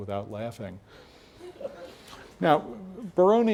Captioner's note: laugh